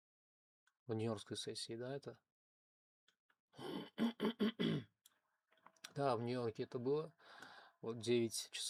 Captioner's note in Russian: кашель; откашливается